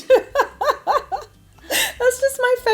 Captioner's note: laughing